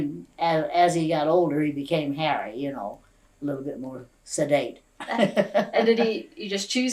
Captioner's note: laughs